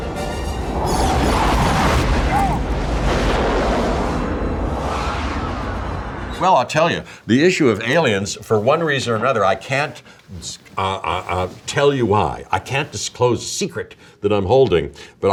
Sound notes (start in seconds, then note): 0.0 dramatic music; 0.1 lasers fire; 3.1 jet engines roar